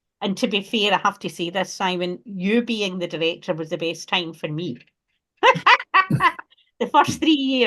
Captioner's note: laughs